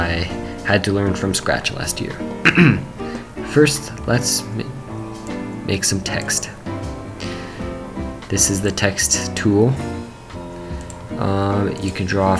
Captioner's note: cough